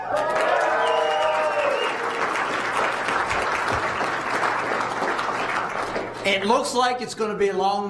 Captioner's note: applause